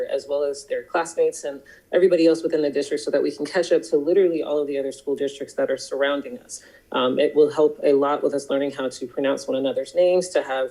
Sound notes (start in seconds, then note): none